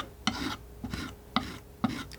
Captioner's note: scratching